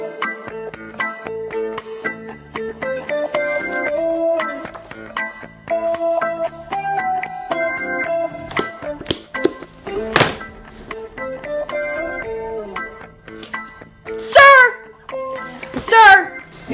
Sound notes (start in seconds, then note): 3.3 pages rustling softly; 10.1 book thuds; 12.2 soft muzak